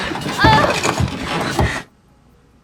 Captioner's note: moans